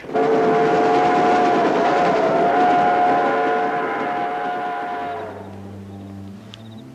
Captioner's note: train horn sounds